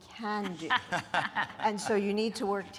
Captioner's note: speaking in a foreign language